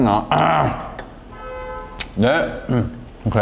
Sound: honk

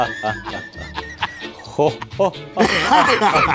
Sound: engineer Laughs; laughs

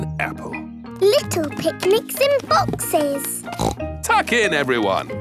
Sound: snorts

